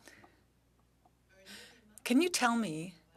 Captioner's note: speaking French